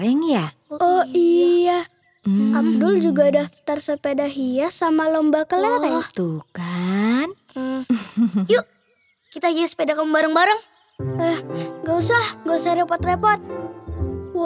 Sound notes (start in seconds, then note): 7.8 laughing